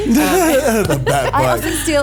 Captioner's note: laughs